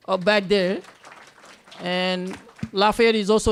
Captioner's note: applause